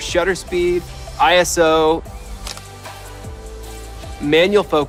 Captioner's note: camera shuttles